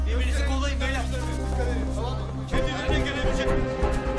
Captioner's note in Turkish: Kargaşa sesi